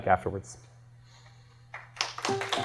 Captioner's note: applause